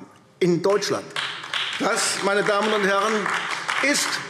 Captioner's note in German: Beifall AfD